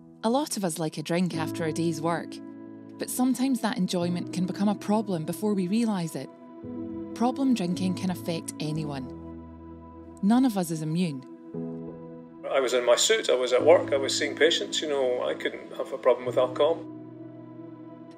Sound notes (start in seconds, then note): 11.9 male Voice